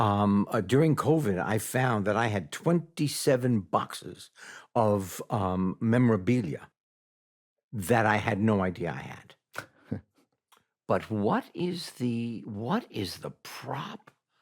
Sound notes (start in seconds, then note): 9.2 scoffs